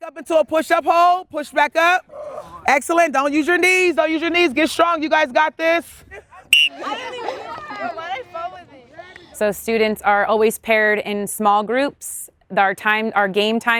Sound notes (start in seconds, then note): 6.5 student laughter; 6.5 whistle blows